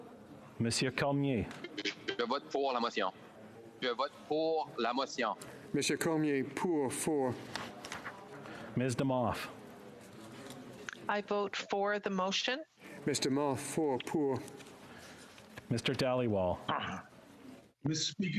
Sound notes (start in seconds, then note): 6.2 speaking French